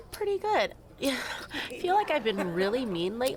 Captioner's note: laughs